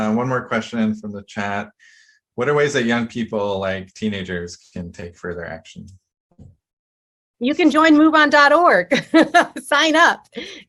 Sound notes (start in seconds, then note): 9.2 laughs